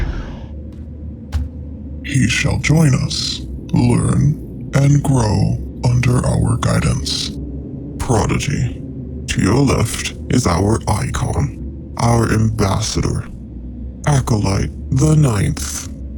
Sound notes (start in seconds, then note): none